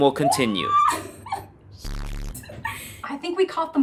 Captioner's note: laughs; zapping sound